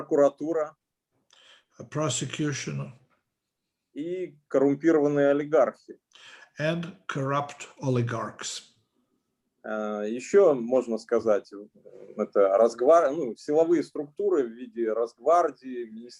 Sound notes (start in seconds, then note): 0.1 speaking Russian language; 4.2 speaking Russian language; 10.3 speaking Russian language